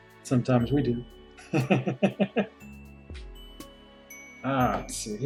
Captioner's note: laughs